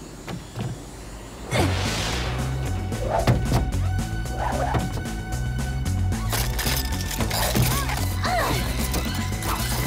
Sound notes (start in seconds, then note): 6.1 straining